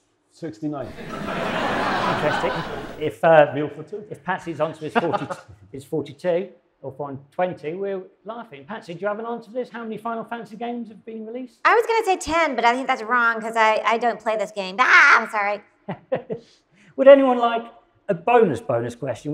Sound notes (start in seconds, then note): 0.8 audience laughs